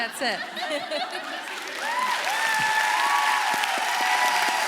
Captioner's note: audience applauding